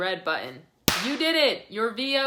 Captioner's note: cracker bangs